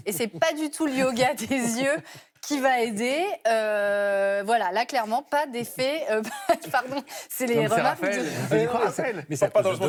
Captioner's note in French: rires